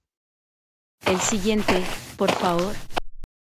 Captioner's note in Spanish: FX - Footsteps - On Multiple Dirt - Walk